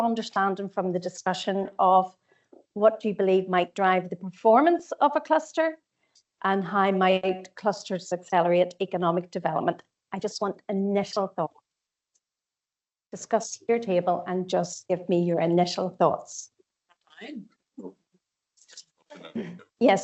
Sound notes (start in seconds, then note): 17.2 audio distorts 06.13